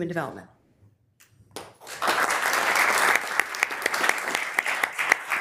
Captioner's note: members applauding